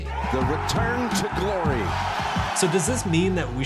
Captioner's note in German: Jubel der Menge